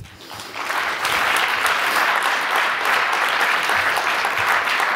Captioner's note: audience applauds